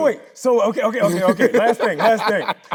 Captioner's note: Tyler laughing